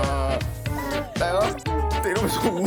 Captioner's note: sob